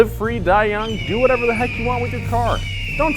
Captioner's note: eagle screeching